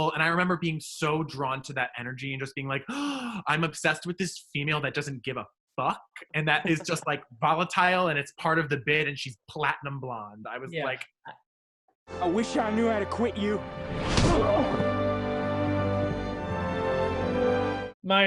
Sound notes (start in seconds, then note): 2.9 gasping; 14.4 grunting; 15.5 orchestral music